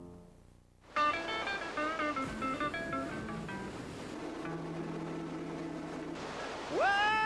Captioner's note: lively music; water rushing